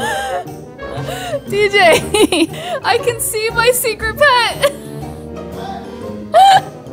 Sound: laughs

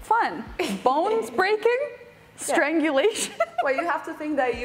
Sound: laughing

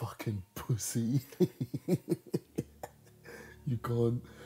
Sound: man chuckles

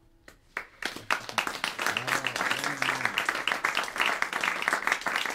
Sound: applause

